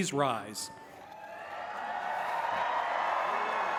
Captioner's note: applause and cheering